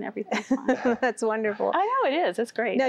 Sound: giggling

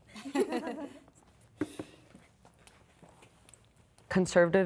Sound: participants laughing

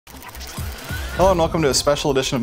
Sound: machine whirring

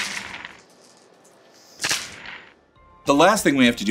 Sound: candy shatters

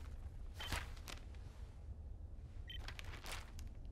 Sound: beeping

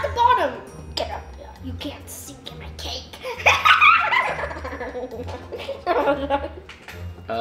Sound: laughs

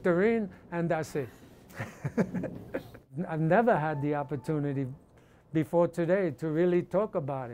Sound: laughs

